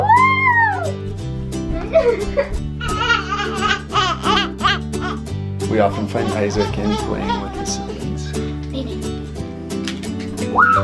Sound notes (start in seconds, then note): 2.8 laughing; 3.5 cooing